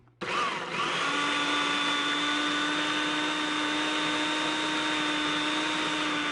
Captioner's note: food processor whirring